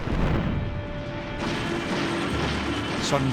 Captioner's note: weapons firing, explosions pounding